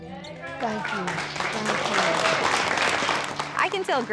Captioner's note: crowd clapping